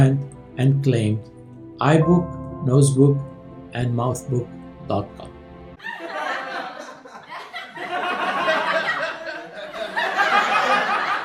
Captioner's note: laughter